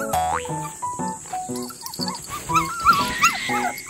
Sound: whining

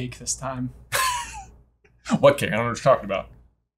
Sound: laughing

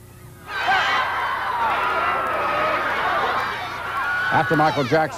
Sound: sounds of distressed crowd

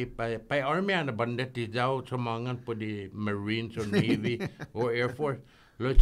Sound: laughing

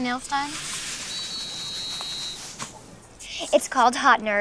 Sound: whistle blows

